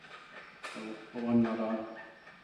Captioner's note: bolt squeaking